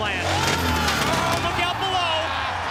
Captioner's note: crowd cheering